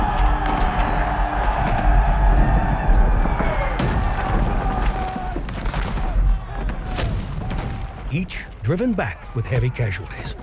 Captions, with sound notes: (battle cry) (boots running) (gunshots) Each driven back with heavy casualties.